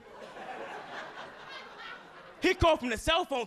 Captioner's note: audience laughing